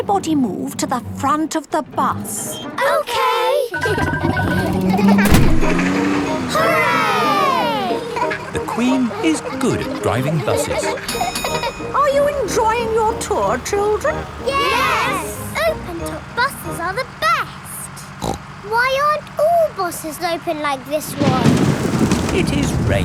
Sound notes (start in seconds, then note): 4.1 kids laughing; 17.9 snorts; 21.0 thunder crashing